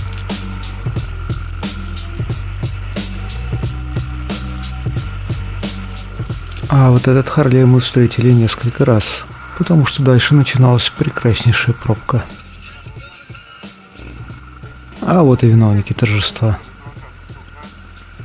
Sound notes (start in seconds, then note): 6.3 Harley and traffic jams